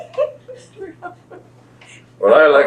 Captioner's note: laughs